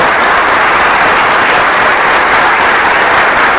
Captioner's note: applause